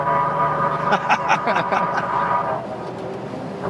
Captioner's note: laughings